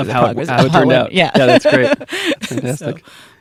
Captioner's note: laughs